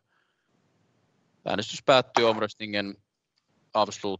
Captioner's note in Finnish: nuijan kopautus